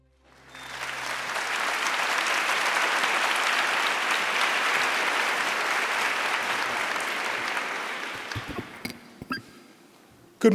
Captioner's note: applause